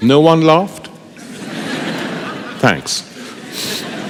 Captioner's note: laughter